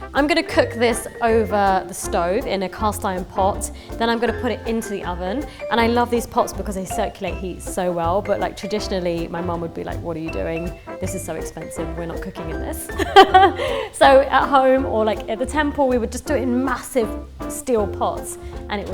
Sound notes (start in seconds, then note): 12.9 laughing